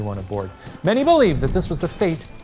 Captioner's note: wreckers yelling; typewriter clicking